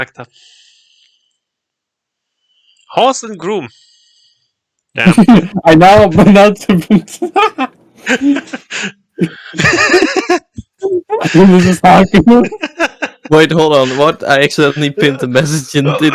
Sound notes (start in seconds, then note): 7.6 laughing